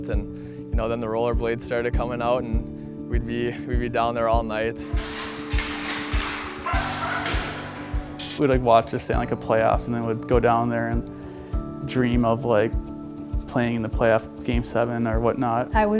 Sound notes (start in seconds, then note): 4.8 sticks scraping on the floor; 6.2 dog barking